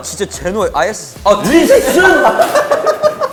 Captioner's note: confident